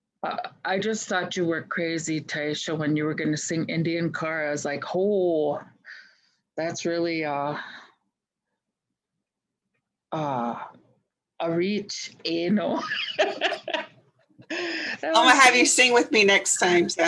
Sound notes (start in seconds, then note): 12.9 laughs